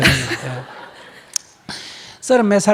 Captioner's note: audience laughter